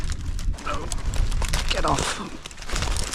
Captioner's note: branches rustling